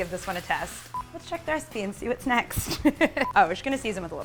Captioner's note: laughs